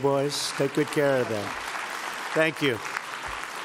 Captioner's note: applause